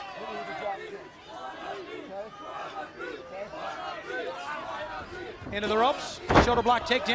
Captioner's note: crowd chatter